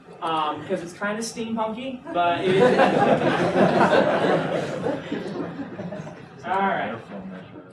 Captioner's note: laughter